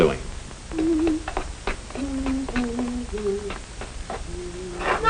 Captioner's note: mother humming softly